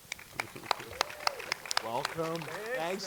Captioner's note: audience clapping